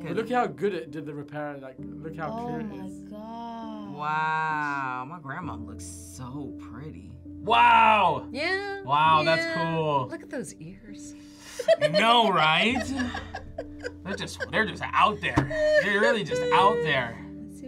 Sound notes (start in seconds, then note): 11.5 both laugh